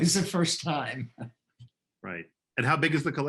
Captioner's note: laughing